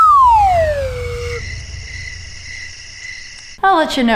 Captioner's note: crickets noise